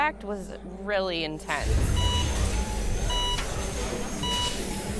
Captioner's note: monitor beeping